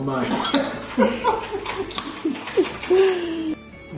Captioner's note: laughs